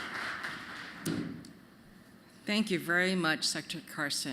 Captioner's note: applause